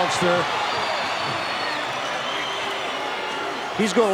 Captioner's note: audience cheering